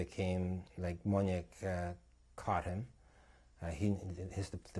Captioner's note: non-english